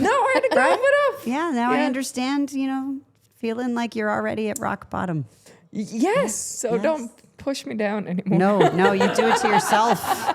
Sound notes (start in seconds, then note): 8.6 laughing